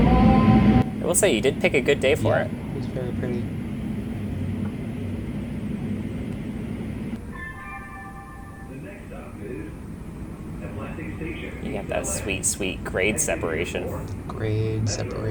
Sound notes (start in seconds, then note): 4.4 PA System